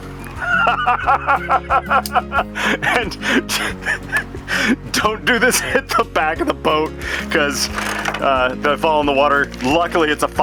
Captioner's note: laughter